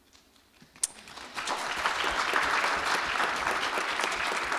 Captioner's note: applause